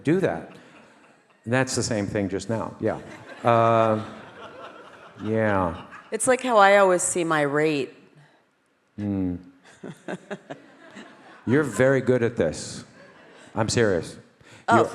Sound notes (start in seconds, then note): 2.9 audience laughing; 9.7 Ariel laughs